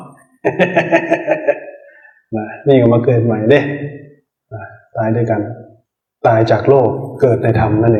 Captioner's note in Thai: เสียงหัวเราะ